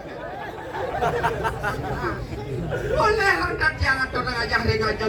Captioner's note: laughing